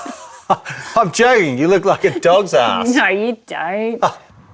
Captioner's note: mocking